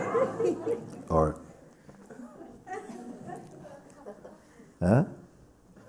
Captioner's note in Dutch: gelach